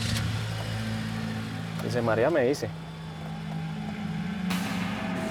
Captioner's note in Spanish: arranca el motor